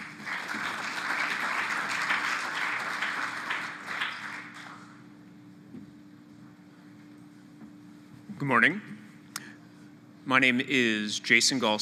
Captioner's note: applause